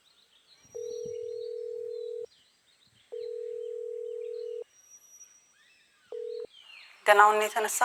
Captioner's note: phone ringing